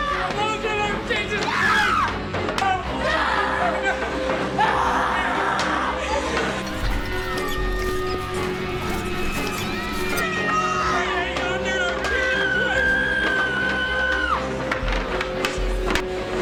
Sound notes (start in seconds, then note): 11.9 shrieking